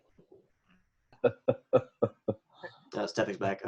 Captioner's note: laughing